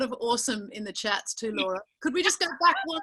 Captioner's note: laughing